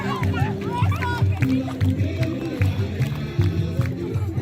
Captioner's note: applause